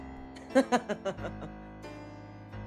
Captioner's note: DIAVOLO laughs